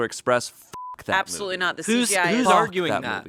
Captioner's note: beep